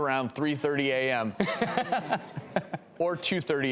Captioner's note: laughs